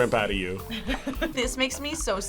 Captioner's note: laughs